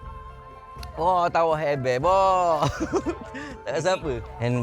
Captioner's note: laugh